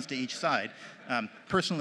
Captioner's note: laughter